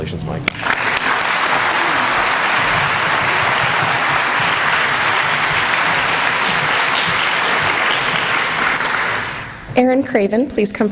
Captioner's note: applause